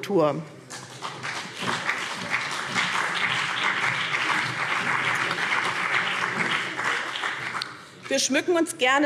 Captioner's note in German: Beifall BÜNDNIS 90/DIE GRÜNEN und vereinzelt CDU